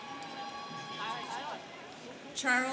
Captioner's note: students cheering